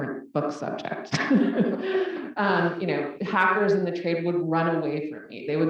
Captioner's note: laugh